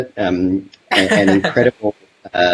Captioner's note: laughs